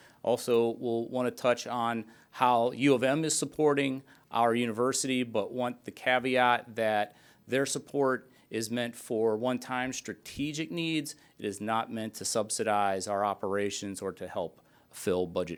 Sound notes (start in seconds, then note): none